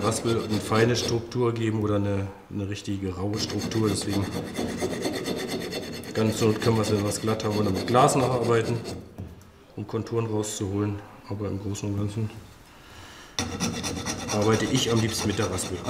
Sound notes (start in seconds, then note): none